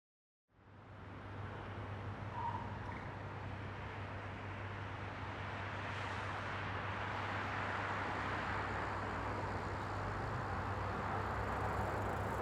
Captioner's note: traffic noises